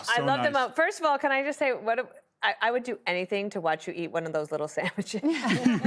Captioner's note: laughter